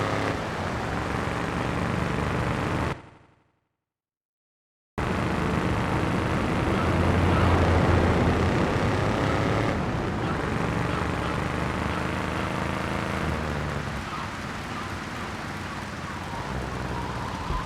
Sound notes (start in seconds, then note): 1.3 sirens wailing